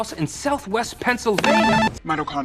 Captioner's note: buzzer sound